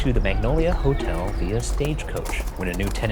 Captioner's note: muffled hooves trot